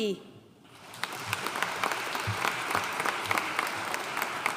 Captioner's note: audience applauding